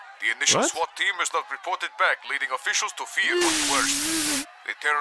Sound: sirens and shouting

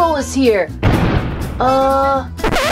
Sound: loud booming

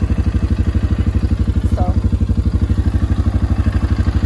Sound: engine revs

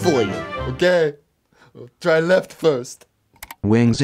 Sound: click

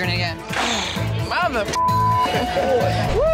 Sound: beep

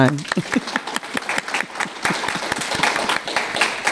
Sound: audience clapping

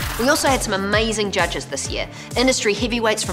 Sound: monkey screams; splash

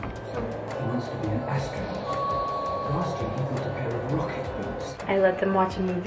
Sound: door creaking; movie playing in background

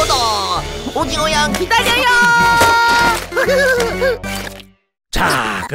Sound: giggles

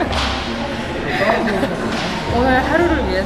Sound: laughing

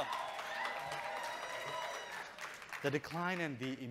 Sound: audience cheering

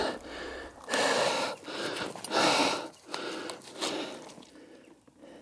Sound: puffing

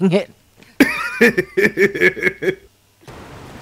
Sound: laughs

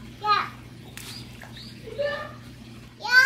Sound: splash

